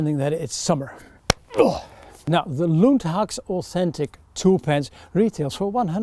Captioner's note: scoffs; hand claps